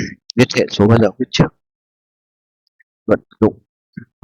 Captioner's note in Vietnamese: hắng giọng